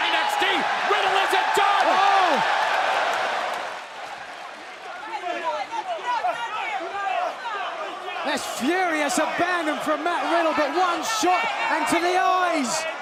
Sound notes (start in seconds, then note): 3.7 crowd cheering; 4.8 crowd chatter